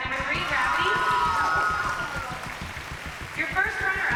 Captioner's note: cheering